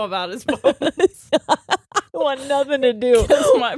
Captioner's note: both laughing